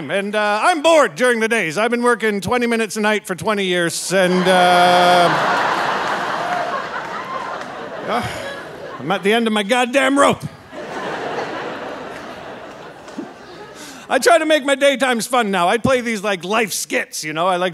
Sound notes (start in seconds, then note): 4.2 audience laughing and cheering; 10.8 audience laughing